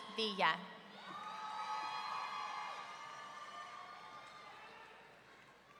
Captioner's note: audience cheering